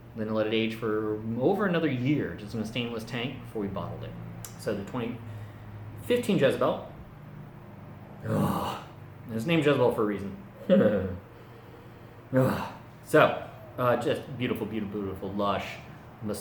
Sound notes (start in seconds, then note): 8.2 loudly sighs; 10.6 laughs; 12.3 loudly sighs again